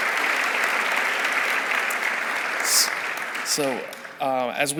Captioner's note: audience applauding